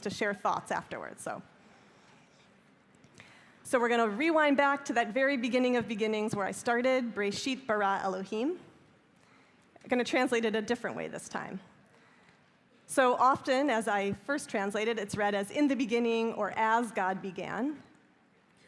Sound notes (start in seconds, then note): 7.1 speaking hebrew